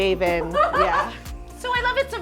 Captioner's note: laughs